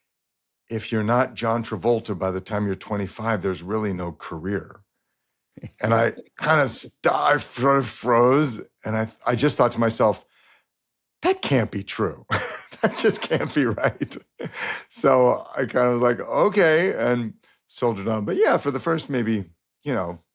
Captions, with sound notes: if you're not John Travolta by the time you're 25, there's really no career." -(CHUCKLES) -And I kind of stopp-- I froze, and I just thought to myself, "That can't be true." (LAUGHS) "That just can't be right." So I kind of was like, "Okay," and soldiered on. But yeah, for the first maybe, you know,